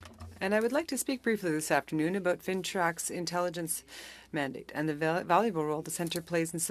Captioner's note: speaking French